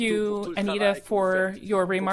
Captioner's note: speaking French